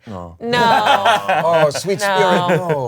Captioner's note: all groan and laugh